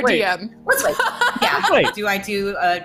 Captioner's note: laughs